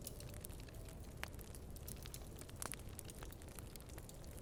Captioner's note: fire crackling